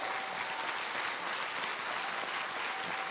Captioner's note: applause